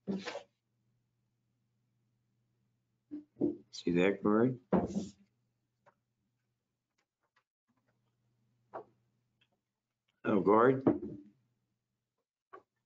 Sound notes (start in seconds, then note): 4.3 no audio